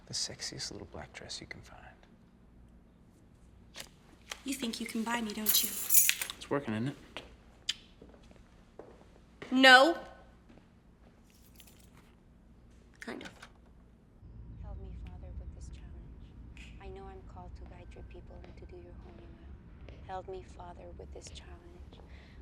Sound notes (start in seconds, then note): 5.3 keys jangling; 11.3 keys jangling; 13.2 door clicks open